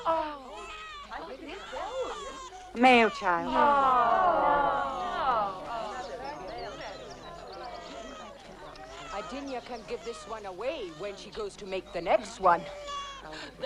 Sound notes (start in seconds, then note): 0.2 crowd murmuring; 2.8 crowd groans; 5.5 crowd chattering